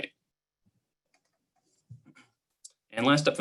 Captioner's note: clicking